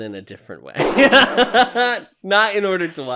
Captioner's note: splutters; guffaws